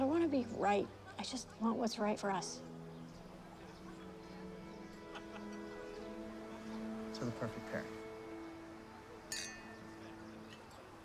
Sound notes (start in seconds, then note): 9.3 clink